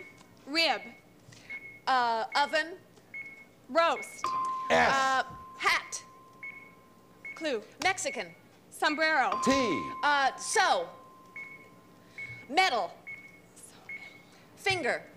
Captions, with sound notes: -Rib. -Oven. -Roast. (ding) -S. -Hat. -Clue. -Mexican. -Sombrero. (ding) -T. -Sew. Metal. Finger.